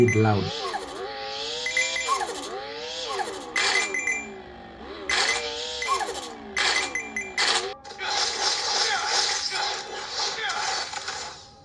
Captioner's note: game sounds